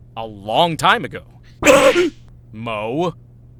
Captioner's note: panicked grunt!